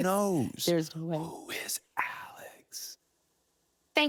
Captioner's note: laughing; whispering